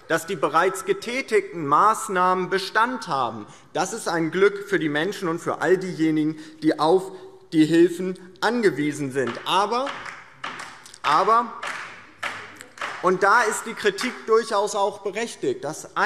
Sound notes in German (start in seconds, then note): 9.4 Beifall DIE LINKE